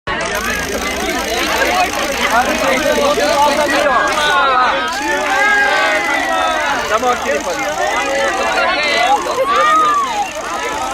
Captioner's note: crowd crying